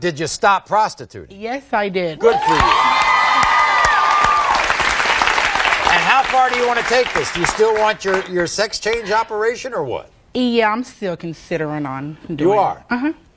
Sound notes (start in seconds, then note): 2.2 cheering; 2.3 audience applauding